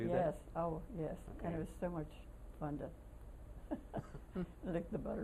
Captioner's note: laughter